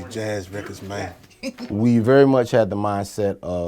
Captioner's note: giggles